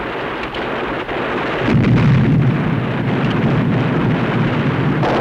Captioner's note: explosion; gunfire